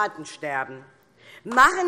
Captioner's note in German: Beifall DIE LINKE